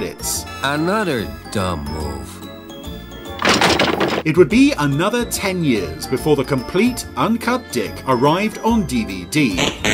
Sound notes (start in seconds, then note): 3.3 crashing; 9.7 buzz